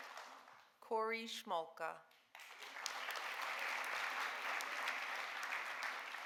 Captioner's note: audience applauding